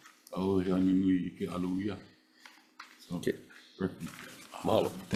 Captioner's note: speaks foreign language